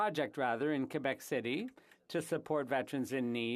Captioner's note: speaking French